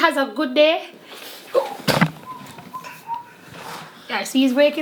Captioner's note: whistling